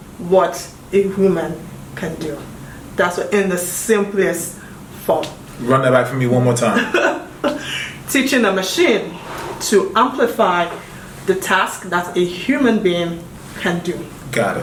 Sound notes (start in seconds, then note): 6.7 laughing